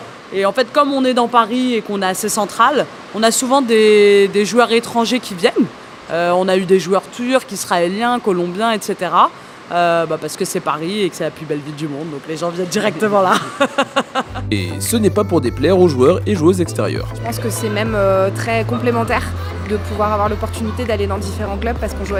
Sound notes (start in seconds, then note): 13.1 laughs